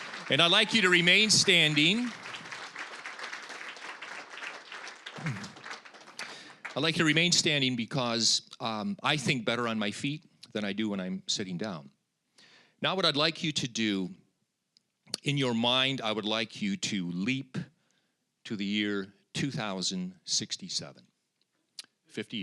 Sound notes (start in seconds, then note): 0.0 applause; 3.2 applause